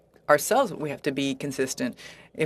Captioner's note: speaking in French